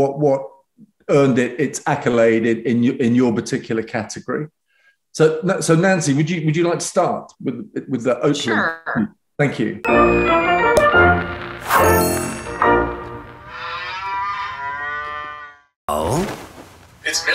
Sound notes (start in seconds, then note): 9.8 upbeat cheerful music; 13.4 cows mooing